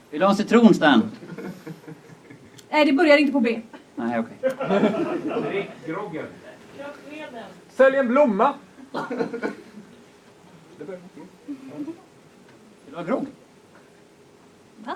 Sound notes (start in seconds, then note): 4.4 laughter; 8.8 laughter